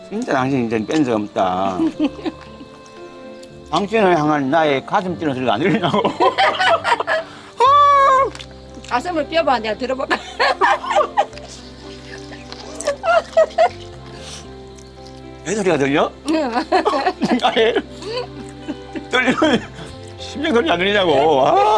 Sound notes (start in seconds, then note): 5.3 both laughing